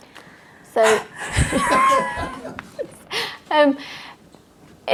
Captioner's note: both laughing